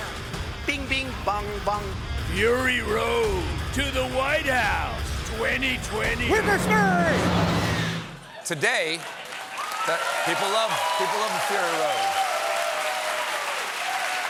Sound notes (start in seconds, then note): 11.3 cheers and applause